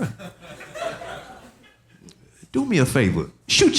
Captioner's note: audience laughing